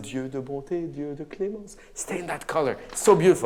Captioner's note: speaks in a foreign language